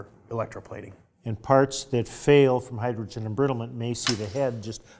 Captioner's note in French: bruits de capsules